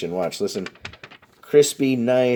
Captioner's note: paper rattles